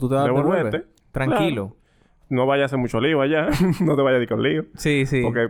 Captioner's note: laughs